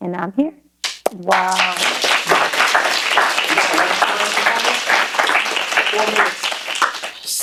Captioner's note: applause